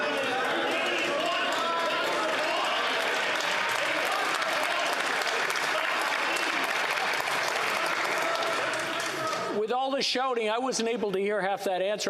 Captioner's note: yelling